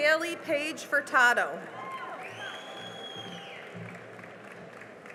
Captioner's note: cheering and applause